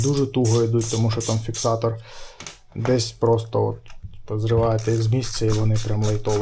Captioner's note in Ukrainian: сопіння